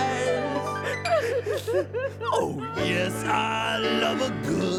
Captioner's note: weeping